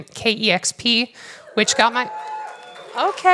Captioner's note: cheers